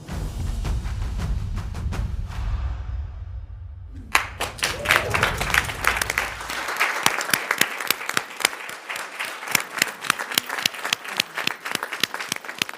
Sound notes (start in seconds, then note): 0.1 upbeat drum music; 4.0 audience clapping